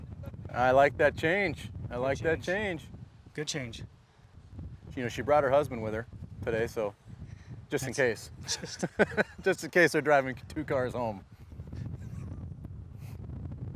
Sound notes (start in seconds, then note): 8.4 laughs